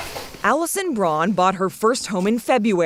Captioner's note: voice-over